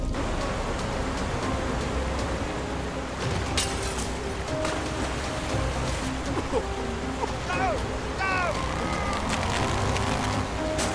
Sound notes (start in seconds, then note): 0.0 dramatic music; 0.0 fire roaring; 1.0 water rushing; 6.4 man coughing; 8.2 rope straining